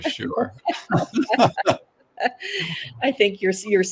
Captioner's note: laughter